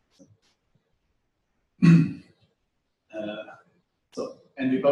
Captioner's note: pause